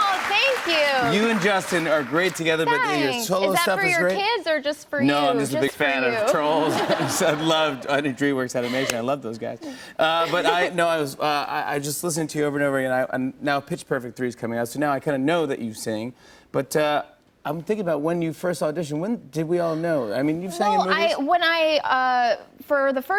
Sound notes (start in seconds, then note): 6.2 laughter